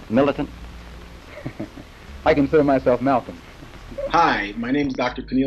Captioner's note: laughs